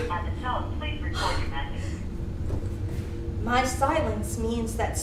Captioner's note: automated Voice